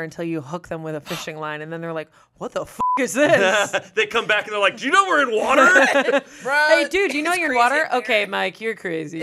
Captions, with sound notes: until you hook them with a fishing line, and then they're like, "What the (beep) is this?" - They come back and they're like, "Do you know we're in water?" (everyone laughs) - "Hey dude, do you know you're in water?" "Okay, Mike, you're crazy.